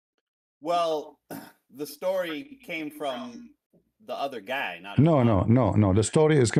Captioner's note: berdehem